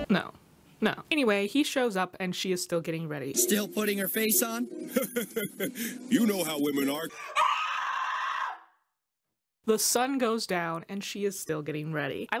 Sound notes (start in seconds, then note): 4.8 chuckles; 7.2 screams